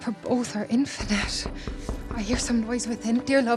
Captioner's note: door knocking